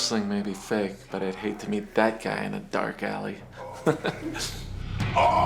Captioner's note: laughs